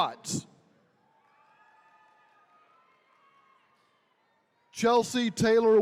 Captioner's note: attendees cheering